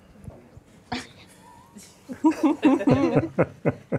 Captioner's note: laughs